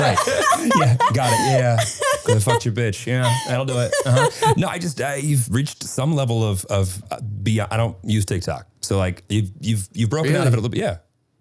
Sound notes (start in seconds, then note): 4.4 laughing